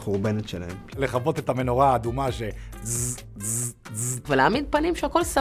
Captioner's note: bzz bzz bzz